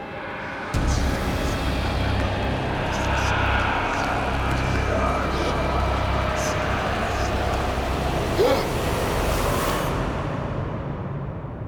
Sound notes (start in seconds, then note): 7.7 John gasping